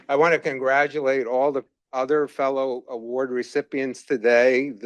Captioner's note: none